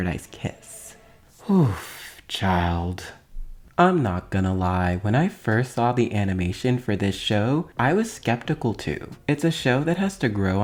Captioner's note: sigh